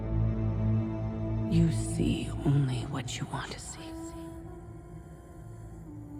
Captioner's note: Sera echoing